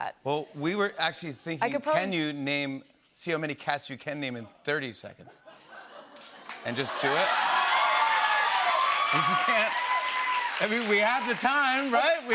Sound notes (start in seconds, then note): 6.4 cheers and applause